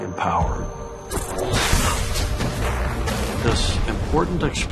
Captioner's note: electrical zapping